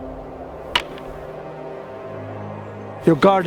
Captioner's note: wooden swords clap